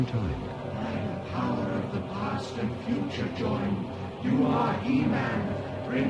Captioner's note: voices